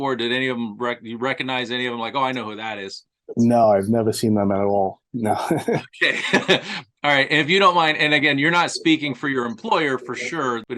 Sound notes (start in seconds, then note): 5.3 chuckling; 5.3 laughter